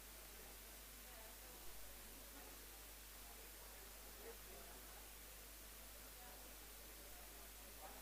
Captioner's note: background chatter